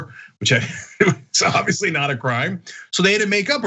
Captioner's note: laugh